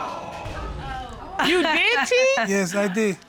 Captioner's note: chuckles